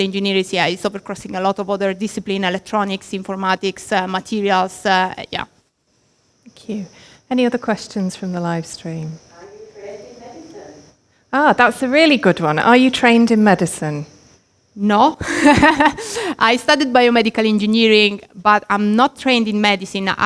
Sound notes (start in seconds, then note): 15.2 laughs